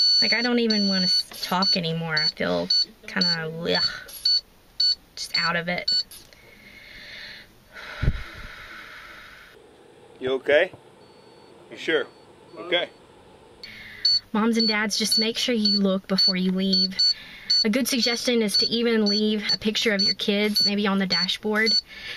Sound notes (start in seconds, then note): 6.3 heavy breathing